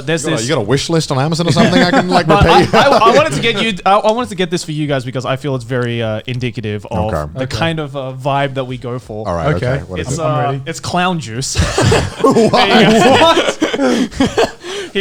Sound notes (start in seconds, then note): 1.4 laughing; 11.5 all laughing